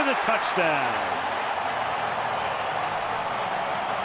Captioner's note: cheering